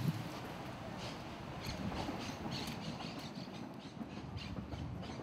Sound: sound of birds and distant train

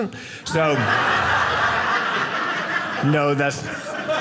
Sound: audience laughing

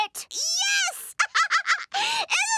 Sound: laughing

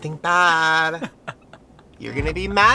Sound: Ryland laughs

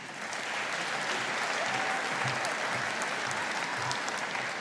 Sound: audience applauding

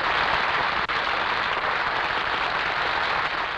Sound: applause

